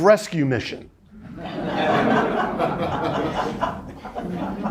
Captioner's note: students laughing